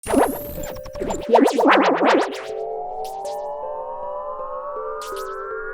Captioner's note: alien sounds